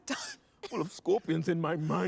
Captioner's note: coughs